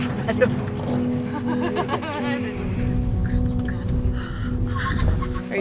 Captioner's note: excited noises